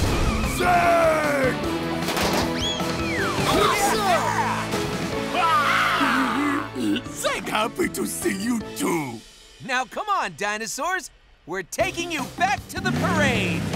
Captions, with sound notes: Zeg! [cheering] [roaring] Zeg happy to see you, too. Now come on, dinosaurs. We're taking you back to the parade.